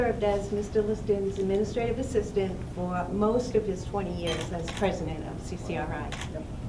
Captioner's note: none